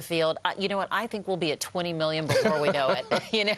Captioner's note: laughter